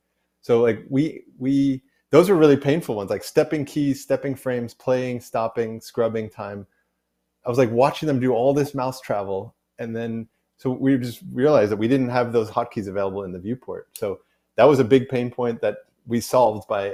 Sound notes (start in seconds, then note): none